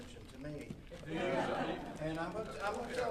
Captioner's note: audience laughing